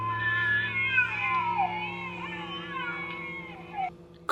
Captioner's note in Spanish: Llanto de bebés